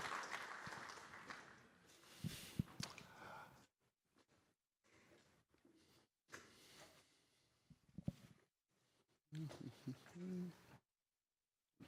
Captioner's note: applause